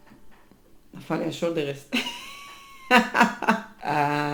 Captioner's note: wild laugh